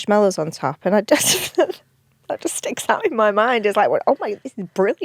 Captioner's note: laughs